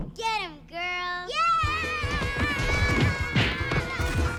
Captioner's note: punches